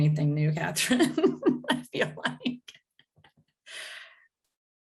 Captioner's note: laughs